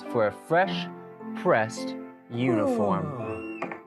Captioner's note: yawning noise